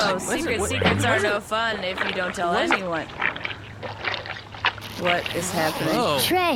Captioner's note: squishing noises start coming from the cake